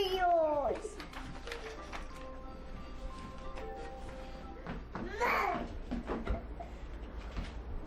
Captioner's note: cries